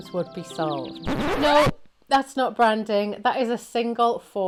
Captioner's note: record needle scratching